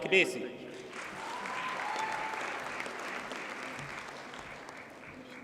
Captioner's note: audience cheers and applauds